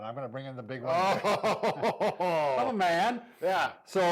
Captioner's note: laughing